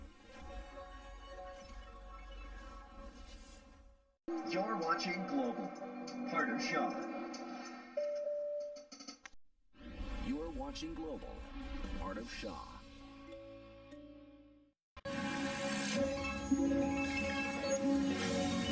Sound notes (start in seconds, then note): 4.9 on TV